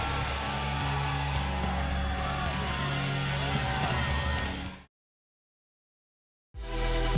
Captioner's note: crowd cheering continues; upbeat rock music continues